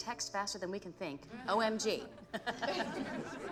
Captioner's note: laughter